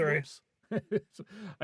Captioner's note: laughing